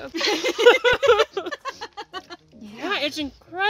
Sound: laughing

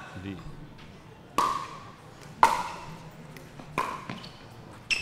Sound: ball bouncing

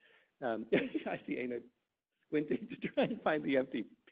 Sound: chuckles

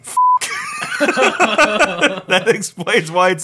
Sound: beep; laughing

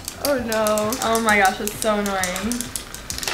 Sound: pen clicking

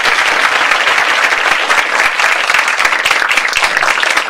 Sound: clapping

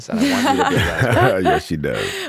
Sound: laughing drowns out Justin

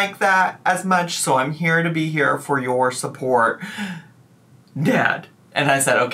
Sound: inhales deeply

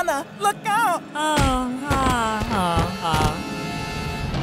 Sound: Lana groans; Lana thuds; intense music

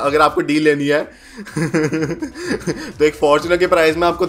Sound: laughing

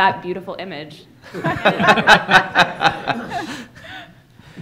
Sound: laughter

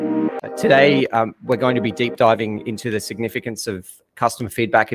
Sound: background music playing; voiceover

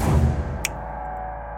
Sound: snaps

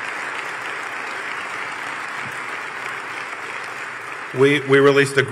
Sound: applause

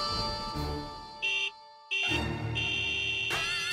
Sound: honking

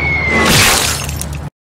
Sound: splattering

